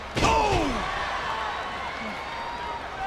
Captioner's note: bodies thud; audience chattering